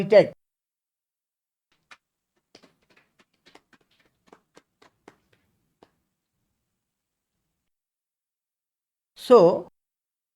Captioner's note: claps